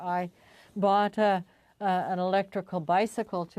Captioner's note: speaking French